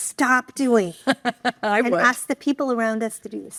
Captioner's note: laughs